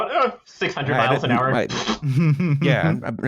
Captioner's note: plllbbth